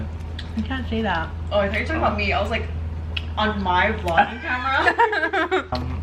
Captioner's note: laughs